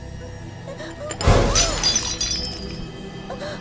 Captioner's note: cup breaks